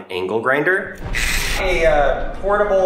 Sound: grinder buzzing

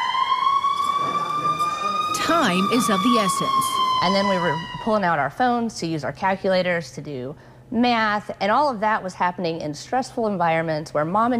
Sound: emergency sirens

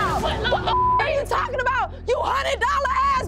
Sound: beep

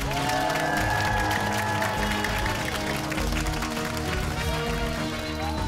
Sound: cheers and applause

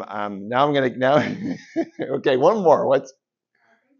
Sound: laughs

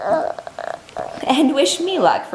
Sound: mumbles

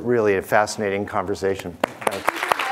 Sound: audience applauding

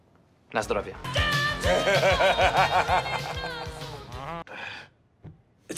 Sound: ABED groans; JEFF laughs

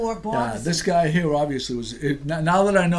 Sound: voiceover

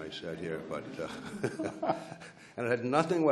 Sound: laughs

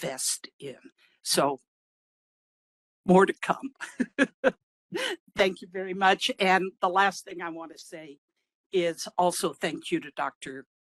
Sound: laughing

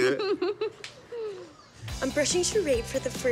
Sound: laughing

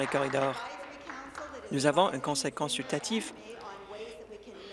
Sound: applause

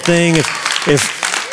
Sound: applause

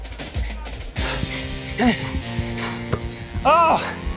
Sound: panting

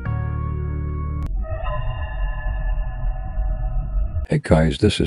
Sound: Fnaf 2 Hallway Sound Effect

